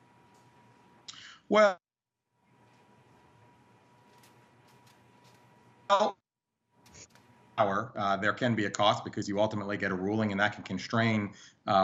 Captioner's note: audio gap